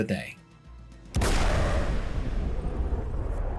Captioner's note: gunshot echoes